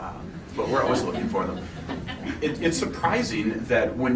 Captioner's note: laughing